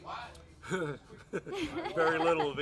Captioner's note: laughs